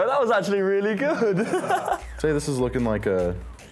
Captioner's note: laughs